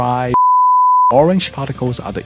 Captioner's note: beep